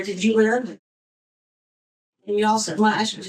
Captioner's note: muted